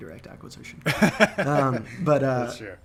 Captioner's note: laughing